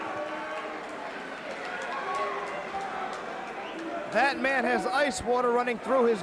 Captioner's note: crowd cheering